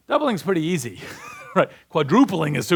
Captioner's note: laughs